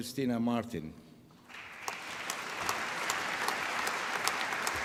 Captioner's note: applause